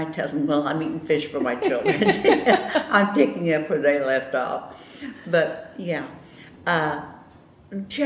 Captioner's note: laughter